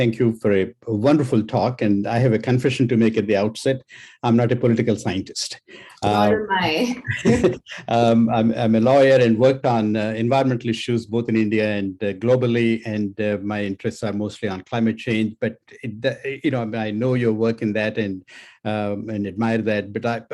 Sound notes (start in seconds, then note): 6.9 laughs